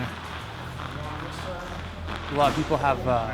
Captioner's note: background gym noise